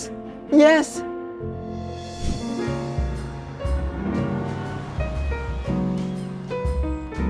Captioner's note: upbeat music; birds chirping